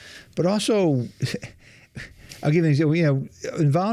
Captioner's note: chuckles